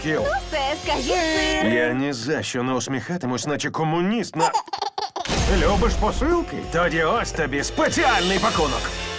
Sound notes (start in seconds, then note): 4.3 giggling